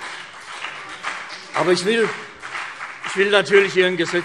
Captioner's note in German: Beifall CDU und BÜNDNIS 90/DIE GRÜNEN